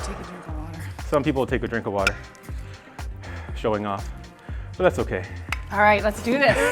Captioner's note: laughing